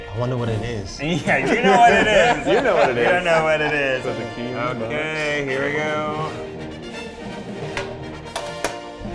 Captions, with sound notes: - I wonder what it is. - You know what it is. (all laughing) - You know what it is. - You know what it is. Okay, here we go. (suspenseful music)